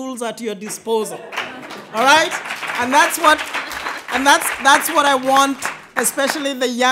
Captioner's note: applause